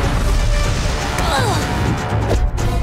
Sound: grunting

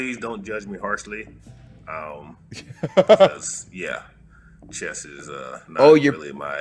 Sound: laugh

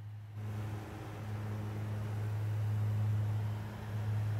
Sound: aircraft whirring

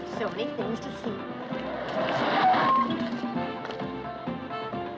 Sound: tires Screech

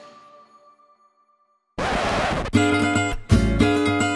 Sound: static

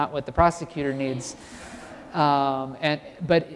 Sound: laugh

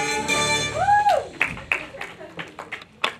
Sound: audience claps

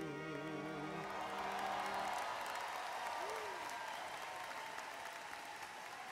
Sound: audience cheers and applauds

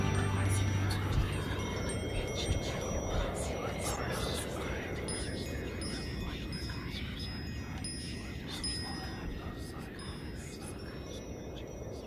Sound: voices whispering positive affirmations within a gentle wind

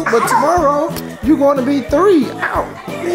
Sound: loud clicking

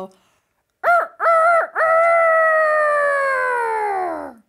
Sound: crows

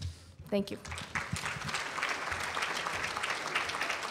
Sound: applause

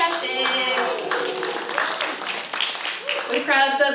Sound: applause

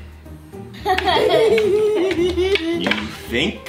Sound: laughs

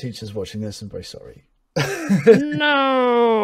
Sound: laughs

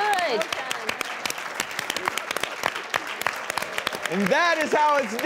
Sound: crowd claps

